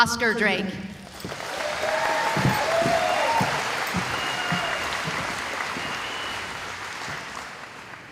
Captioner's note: cheering